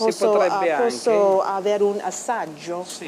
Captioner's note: speaking Italian